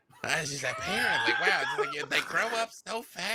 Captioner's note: murmurs